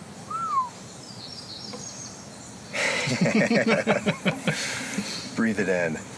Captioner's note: whistles; laughter